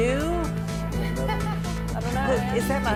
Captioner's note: laughter